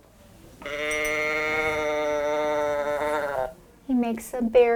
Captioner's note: teddy bear bleats